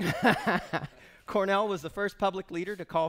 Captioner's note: laughing